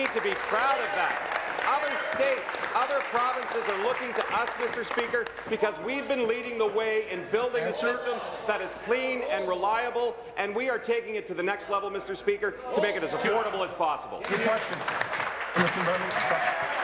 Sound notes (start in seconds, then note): 5.0 applause